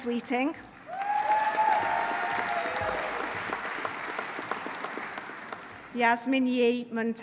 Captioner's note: audience applauding; audience cheering